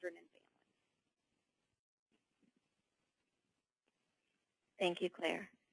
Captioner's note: long pause